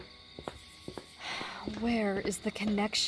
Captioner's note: sigh